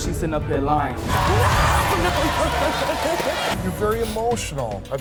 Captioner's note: audience shouting